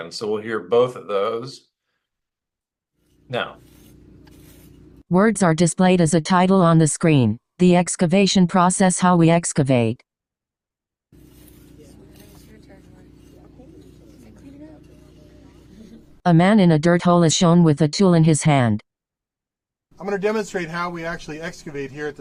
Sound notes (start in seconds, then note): 11.6 chatter